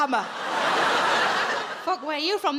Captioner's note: audience laughs